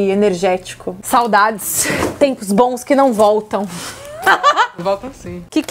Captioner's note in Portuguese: risos